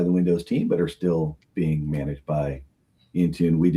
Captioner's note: none